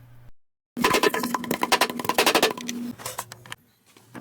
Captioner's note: getting beat up noises